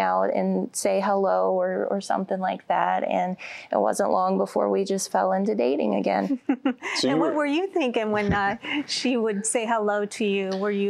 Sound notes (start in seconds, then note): 6.2 giggling